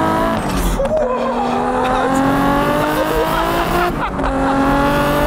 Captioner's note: unintelligible girly-man noises and giggles